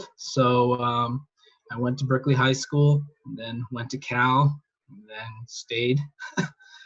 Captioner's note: laughs